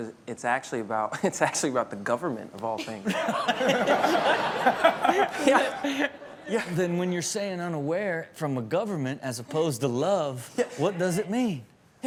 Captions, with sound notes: - But it's actually about the government of all things. (everyone laughs) - Yeah. Yeah. - Then when you're saying, "Unaware," from a government as opposed to love, what does it mean?